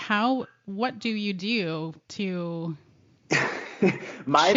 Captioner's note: laughing